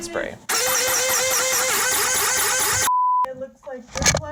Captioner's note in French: la pompe grince